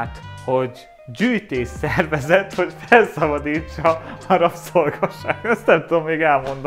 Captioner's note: laughs